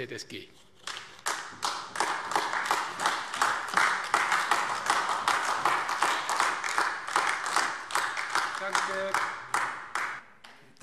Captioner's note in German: Beifall AfD